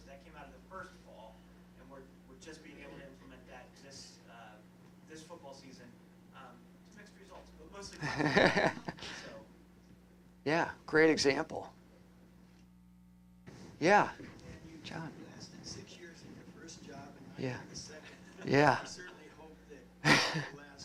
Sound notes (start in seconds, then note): 8.0 laughter